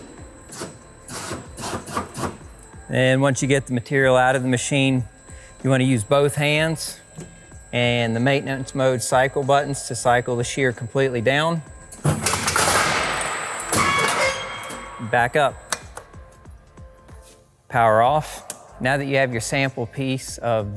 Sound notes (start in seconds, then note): 12.1 machine clicking